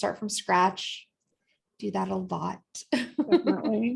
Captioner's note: laughter